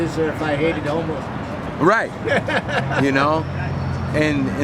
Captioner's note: laughing